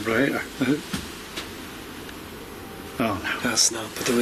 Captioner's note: soft thumping